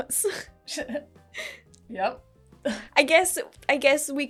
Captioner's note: laughing